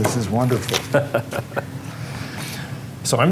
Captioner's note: chuckling